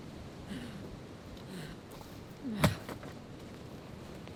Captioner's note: panting